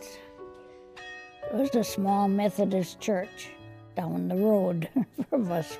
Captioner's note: school bell ringing